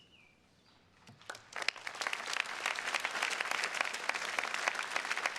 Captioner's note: attendees clapping